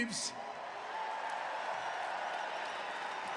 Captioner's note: cheering